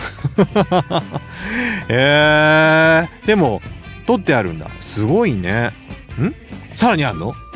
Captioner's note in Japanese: 笑い